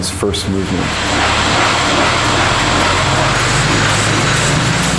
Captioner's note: whirring of printing machinery